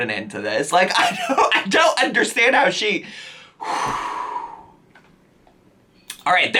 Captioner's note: deep sigh